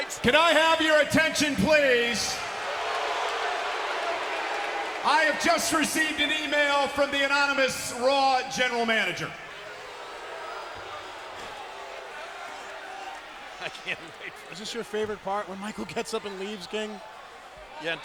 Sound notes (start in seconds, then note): 3.1 crowd clamoring; 14.3 laughs